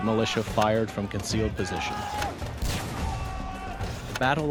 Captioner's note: gunshots